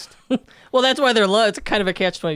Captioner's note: chuckles